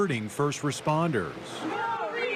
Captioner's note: nats of protester chants